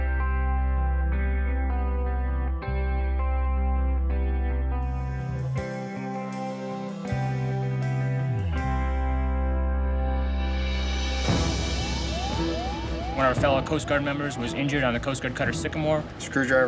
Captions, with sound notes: (gentle guitar music) (intense music) (siren blares) - One of our fellow Coast Guard members was injured on a Coast Guard Cutter Sycamore.